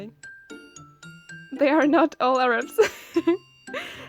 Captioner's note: giggles again